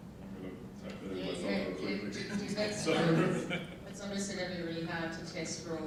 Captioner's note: laughing